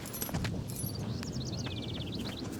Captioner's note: wind blowing